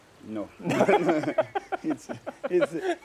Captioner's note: laughing